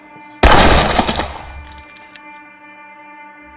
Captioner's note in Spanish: disparos